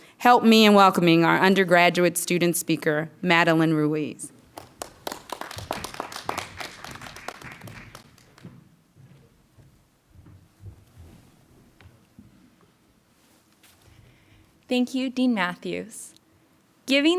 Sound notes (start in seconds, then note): 4.5 clapping